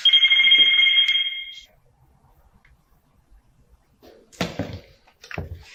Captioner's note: phone ringing